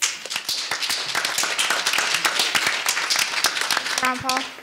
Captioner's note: audience applauding